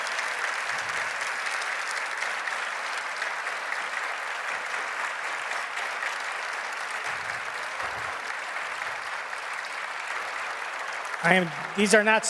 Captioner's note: applause